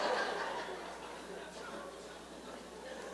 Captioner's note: laughter